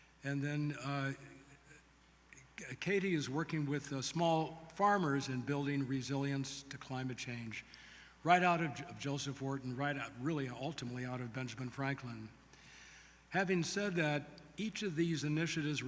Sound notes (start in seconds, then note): none